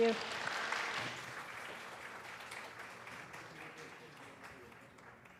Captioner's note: students applauding